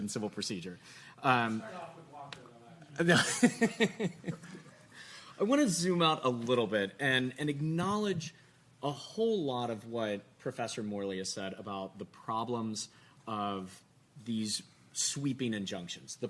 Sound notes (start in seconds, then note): 3.1 laughing